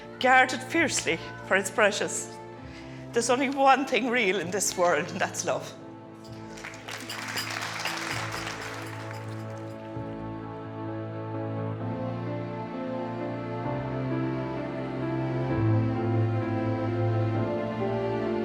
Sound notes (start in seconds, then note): 6.2 guests clapping; 11.9 emotional orchestral music